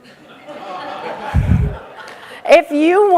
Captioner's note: audience laughing